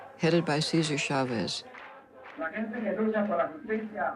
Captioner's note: speaking in foreign language